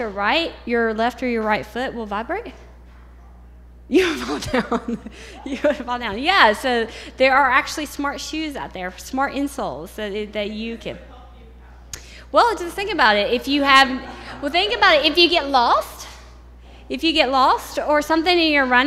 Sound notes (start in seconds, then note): 3.9 laughs